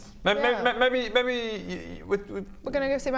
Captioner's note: none